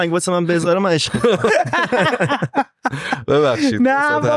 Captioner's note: laughs